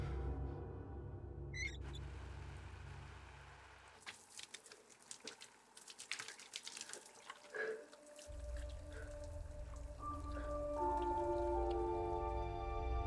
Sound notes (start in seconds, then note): 1.5 faucet squeaking; 2.6 water streaming; 10.4 grim music